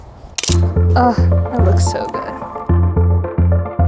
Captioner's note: shutter clicks